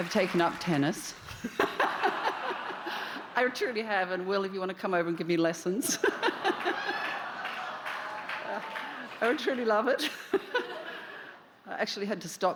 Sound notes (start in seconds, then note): 3.5 cheers and applause; 10.0 laughter